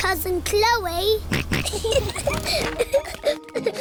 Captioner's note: snorts; kids giggling